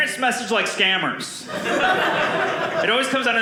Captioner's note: audience laughing